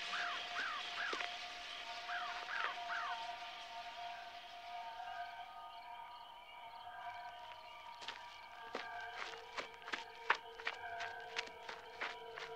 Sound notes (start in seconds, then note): 0.1 bird squawking; 5.1 insects chirping